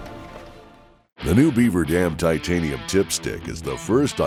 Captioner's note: voiceover